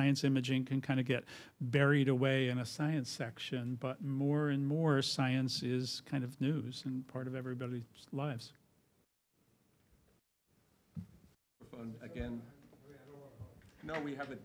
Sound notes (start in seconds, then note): 10.9 audio cuts out